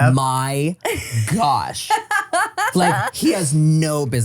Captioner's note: laughs